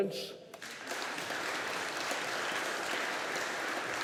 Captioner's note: audience applauding